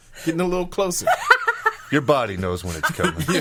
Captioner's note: laughing